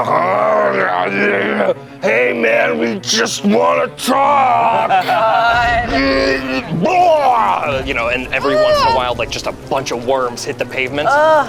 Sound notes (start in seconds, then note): 0.2 grumbling; 4.2 group laughs; 6.5 retches